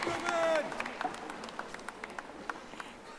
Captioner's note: audience applauding